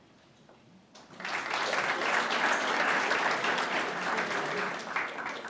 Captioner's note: audience applauds